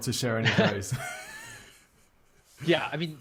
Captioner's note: laughing